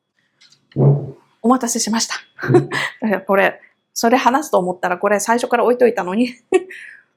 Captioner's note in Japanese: 笑い